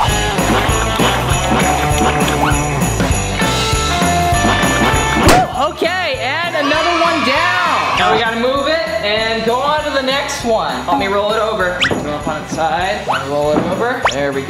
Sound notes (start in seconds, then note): 0.1 upbeat music; 6.5 kids cheering